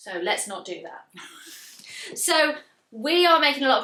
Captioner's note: laughs